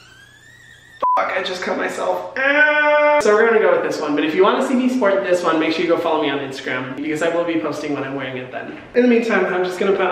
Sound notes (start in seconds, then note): 0.9 beep